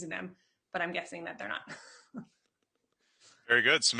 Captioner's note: chuckles